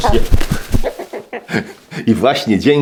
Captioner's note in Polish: śmiech